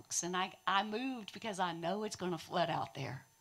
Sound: none

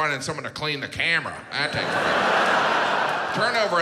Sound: audience laughs

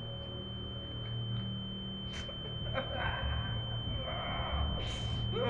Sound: high-pitched white noise; Sean whimpering

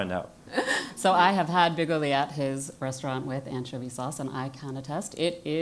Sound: laugh

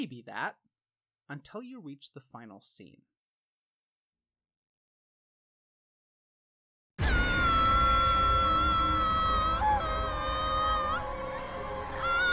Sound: screaming; baby crying

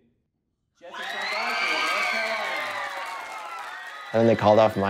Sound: audience cheering and clapping

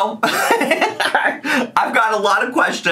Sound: chuckling

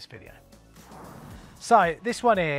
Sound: swoosh

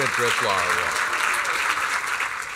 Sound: applause

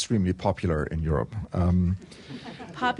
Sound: laughter

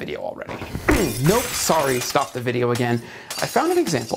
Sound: glass shattering

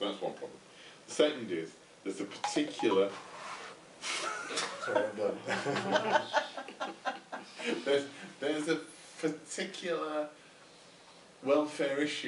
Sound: electronic noise, laughter

